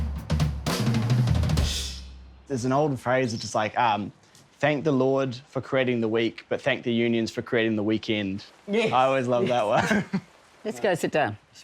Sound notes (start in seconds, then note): 9.3 laughs